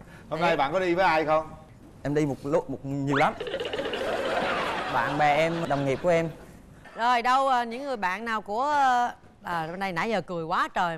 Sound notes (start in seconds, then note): 3.2 laugh